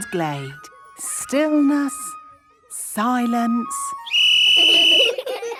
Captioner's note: whistle blowing; laughter